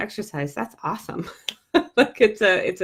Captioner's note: laughs